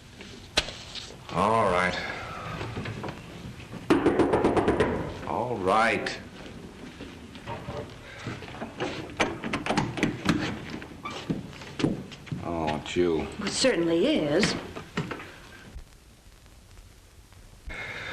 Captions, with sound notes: - Alright. (knocking at door) Alright! (lock clicks) Oh, it's you. - Most certainly is.